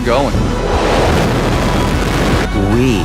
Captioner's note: Rocket's engine blast